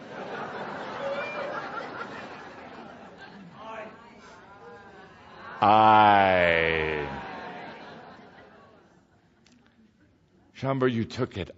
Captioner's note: laughter, then audience responds, “I”